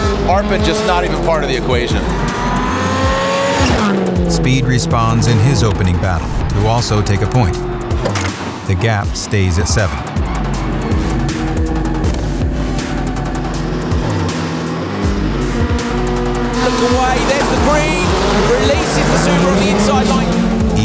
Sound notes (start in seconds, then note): 1.9 car engine revving; 10.3 techno music